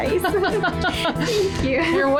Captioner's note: laughing